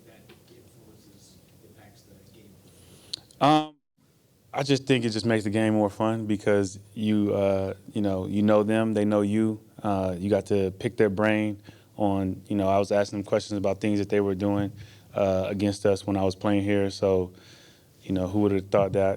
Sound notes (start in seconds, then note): 3.1 tongue clicks